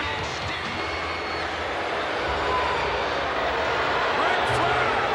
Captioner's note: crowd booing